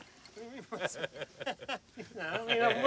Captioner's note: laughing